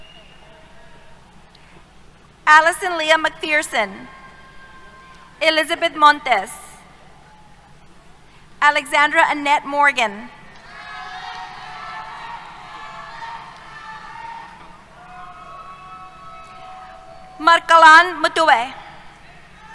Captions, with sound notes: Alison Leah McPherson. Elizabeth Montes. Alexandra Annette Morgan. [ Cheers ] Marc-Alain Muteba.